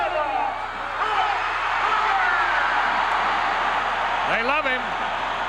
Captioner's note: crowd cheers